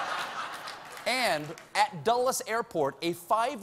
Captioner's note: laughter